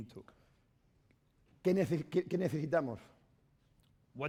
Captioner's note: speaking spanish